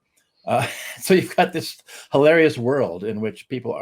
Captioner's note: chuckles